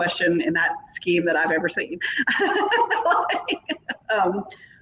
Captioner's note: laughs